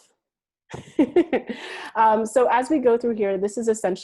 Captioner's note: laughs